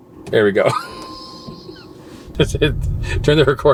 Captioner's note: laughing